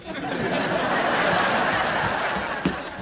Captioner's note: laughs